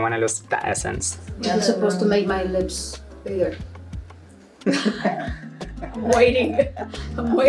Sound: laughs

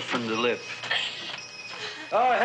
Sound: coughing; doorbell jingling

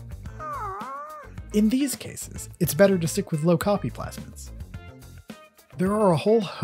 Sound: Blugene sighs

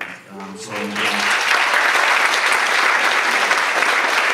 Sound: audience applauds

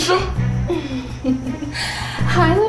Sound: chuckling

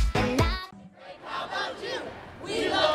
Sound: crowd

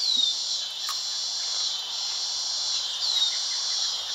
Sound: crickets chirp

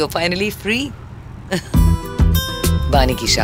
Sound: laughing

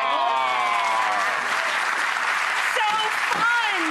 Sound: audience applauds

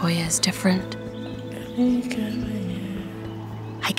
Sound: speaking in Somali

